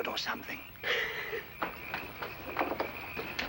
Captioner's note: laughing